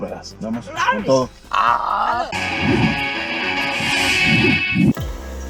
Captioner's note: enthusiastic laughs